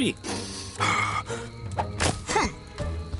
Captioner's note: scoffs